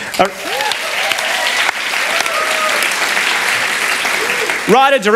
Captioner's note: applause